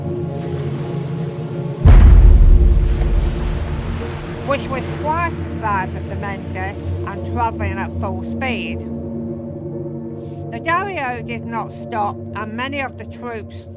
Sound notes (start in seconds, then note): 1.8 crash